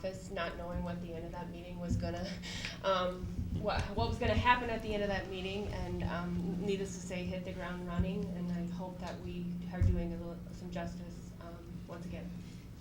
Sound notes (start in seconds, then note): none